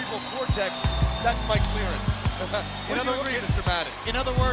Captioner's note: chuckles